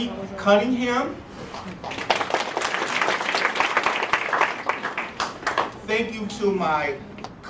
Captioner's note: applause